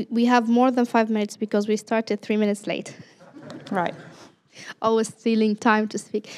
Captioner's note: laughter